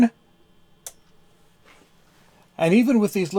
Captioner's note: click